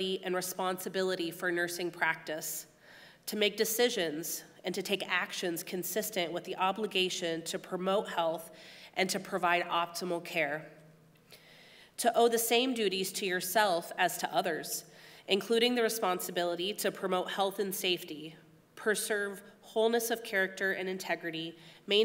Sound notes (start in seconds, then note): none